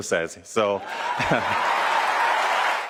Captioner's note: cheering and applause; laughter